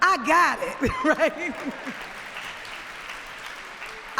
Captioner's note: applause